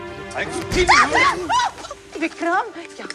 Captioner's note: Sonali exclaims